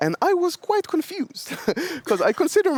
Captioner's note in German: lacht